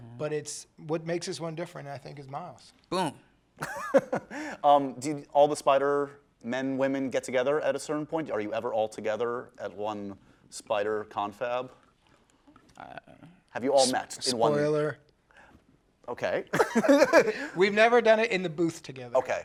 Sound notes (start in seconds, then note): 3.6 laughing; 16.6 laughing